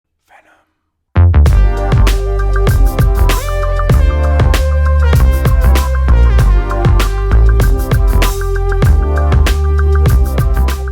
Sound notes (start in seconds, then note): 0.0 whispered